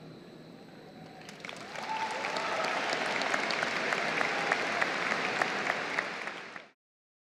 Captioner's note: applause